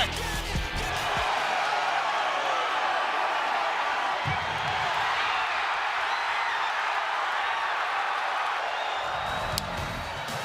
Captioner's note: crowd cheering